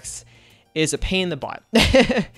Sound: laughs

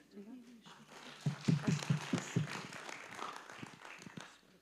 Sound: audience clapping

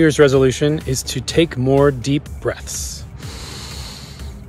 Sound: inhales/exhales

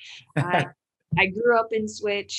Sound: laughing

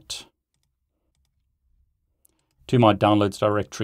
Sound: mouse clicking

